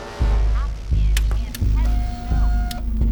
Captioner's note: suspenseful music; crate whirring mechanically